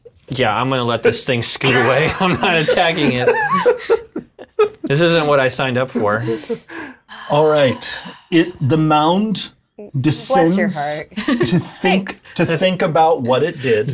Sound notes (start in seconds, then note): 1.6 laughing